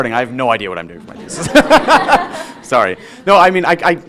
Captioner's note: laughing; audience laughing